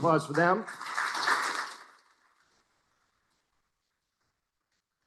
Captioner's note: applause